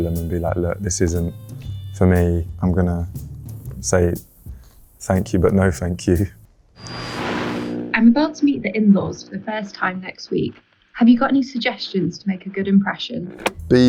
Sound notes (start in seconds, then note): 6.8 radio buzzing